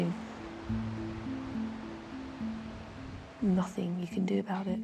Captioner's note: waves washing